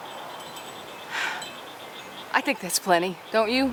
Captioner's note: sighs